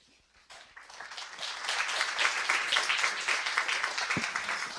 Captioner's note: clapping